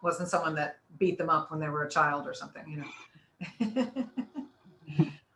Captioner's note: laughs